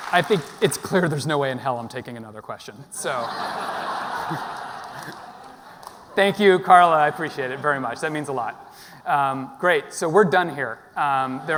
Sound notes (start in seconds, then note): 2.9 audience laughing